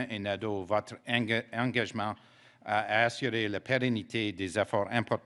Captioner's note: speaking French